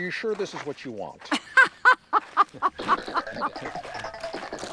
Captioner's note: laughing